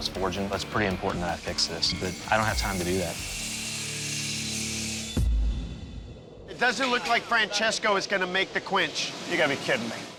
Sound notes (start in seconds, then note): 3.2 metal grinding